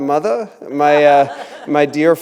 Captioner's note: laughter